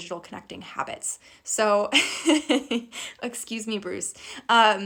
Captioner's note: laughing